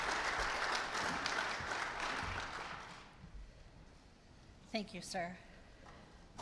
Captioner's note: applause